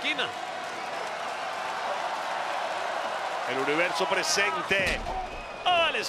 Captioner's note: applause